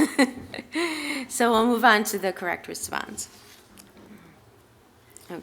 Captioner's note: laughter